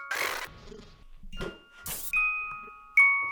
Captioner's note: static whirring; static crackles